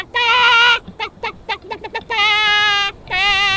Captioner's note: screaming rooster